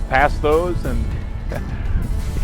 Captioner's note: laughs